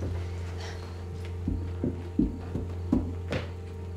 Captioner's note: tense music; footsteps approaching; hand patting; crickets chirping; tense music